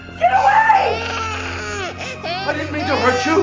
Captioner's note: baby crying